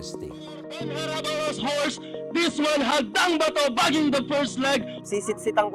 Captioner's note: horse commentator speaking